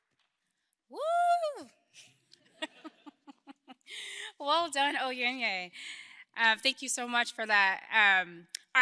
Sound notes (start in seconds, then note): 1.0 cheers; 2.5 laughs